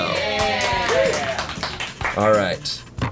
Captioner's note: colleagues applauding